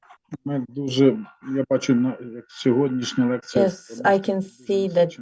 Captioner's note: non-english speech